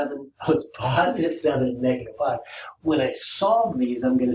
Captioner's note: laughs